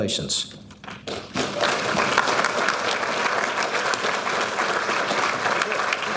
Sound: audience applauding

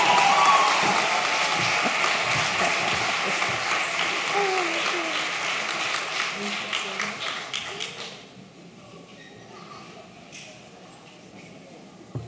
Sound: applause

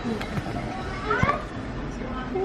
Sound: people chatting

